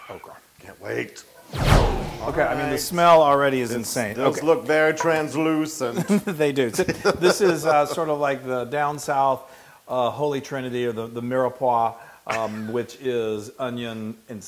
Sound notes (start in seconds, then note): 5.9 laugh